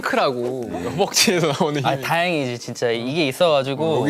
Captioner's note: haha